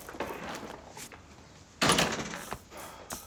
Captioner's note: the door opens